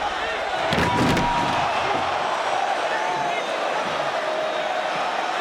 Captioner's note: table clattering